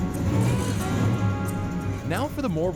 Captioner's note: engine rumbling